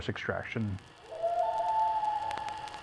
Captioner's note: common loon wailing